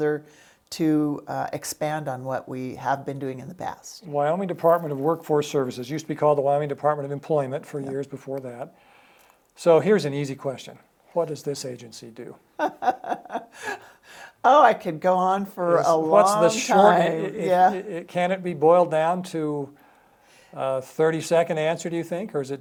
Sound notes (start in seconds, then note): 12.6 laughs